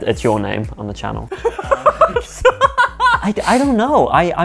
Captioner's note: laughing